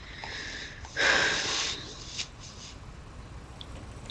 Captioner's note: she exhales heavily